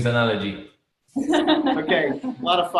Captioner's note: laughing